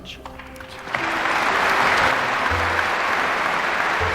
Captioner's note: applause